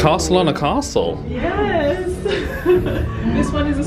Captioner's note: laughs